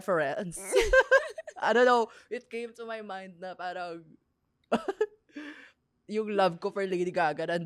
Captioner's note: laughs